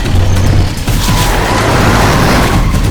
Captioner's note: tires squealing